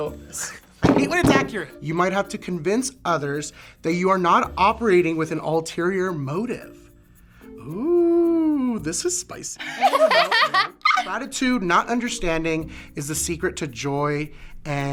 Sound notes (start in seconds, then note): 9.6 both laugh